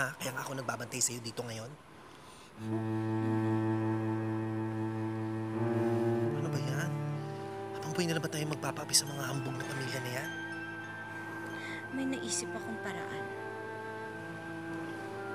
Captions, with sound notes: That's why I'm watching over you now. [tense music] [exhales] My goodness. Are we going to be oppressed by those proud families for the rest of our lives? I just thought of a way.